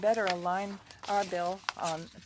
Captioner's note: speaking French